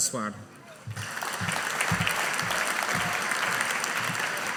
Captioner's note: audience applauding